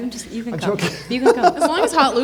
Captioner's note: laughs